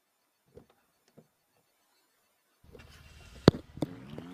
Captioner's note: engine roar